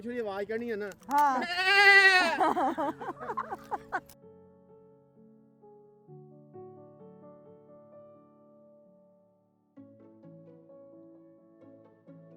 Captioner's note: laughing hysterically